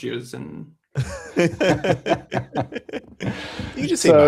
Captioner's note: laughter